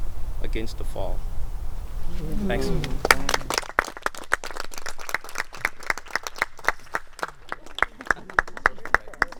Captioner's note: murmurs of approval; applause